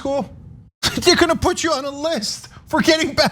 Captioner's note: laugh